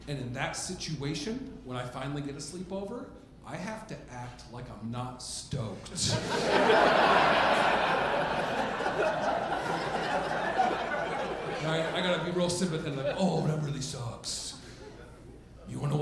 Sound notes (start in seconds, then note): 5.9 audience laughing